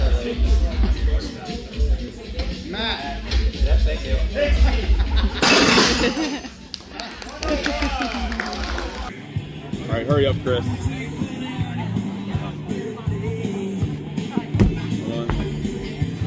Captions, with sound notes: and, uh, no legs on your doorstep? Matt! Yup, thank you. Sixty! *Laughter* *Crash* *clapping* Alright, hurry up, Chris. One